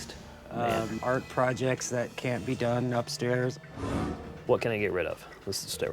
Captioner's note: none